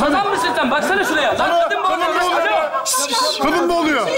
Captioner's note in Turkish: aynı anda bağrışmalar